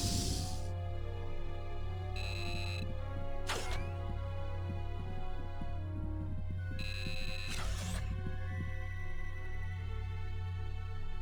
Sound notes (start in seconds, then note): 0.0 beeps